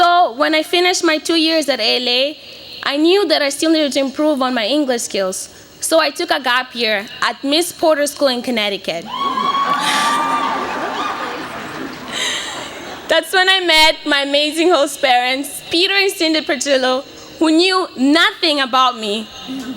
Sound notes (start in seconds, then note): 9.0 cheering; 12.3 laughs